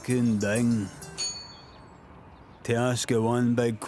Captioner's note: bell rings